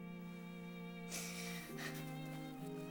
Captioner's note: sobbing